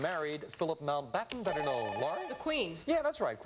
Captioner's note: buzzer